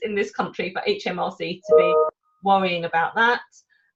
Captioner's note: alert sounds